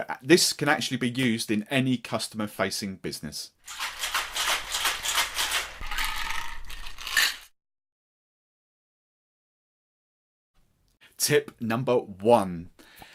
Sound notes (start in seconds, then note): 3.6 cocktail shaker shaking; 5.9 ice cubes clinking into glass